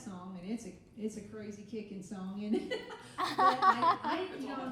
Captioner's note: laughing